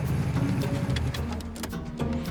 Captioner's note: engine cuts off